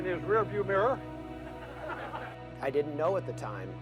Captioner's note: laughing